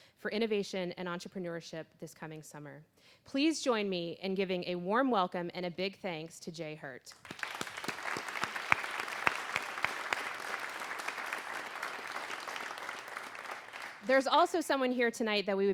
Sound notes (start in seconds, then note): 7.1 applause